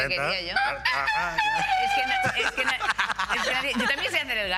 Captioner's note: imitates the crowing of a roost